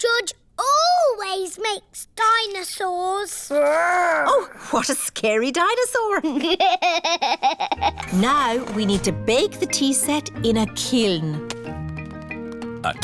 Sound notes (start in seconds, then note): 6.3 chuckles